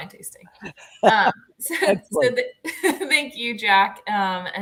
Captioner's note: laughter